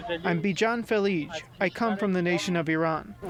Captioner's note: through translator